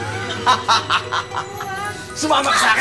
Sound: laughs

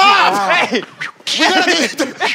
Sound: whip sound

